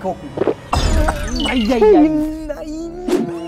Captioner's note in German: Husten